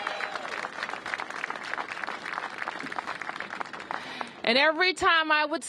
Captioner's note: applause